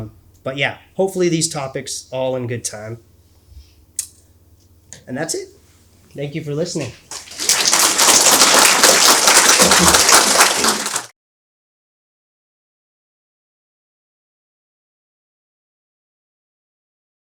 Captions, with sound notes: But yeah, hopefully, these topics all in good time. And that's it. Thank you for listening. (audience applauding)